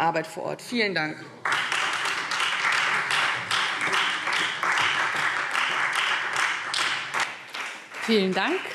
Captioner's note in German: Beifall Freie Demokraten